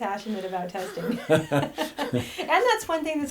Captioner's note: laughing